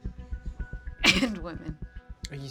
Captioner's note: coughs